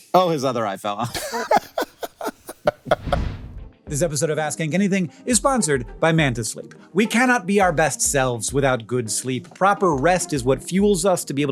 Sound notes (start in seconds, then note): 1.0 both laughing; 2.9 logo whooshing